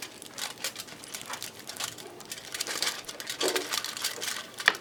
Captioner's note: tinfoil crumpling